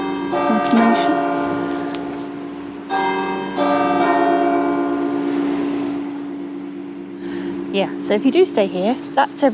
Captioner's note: church Bells ring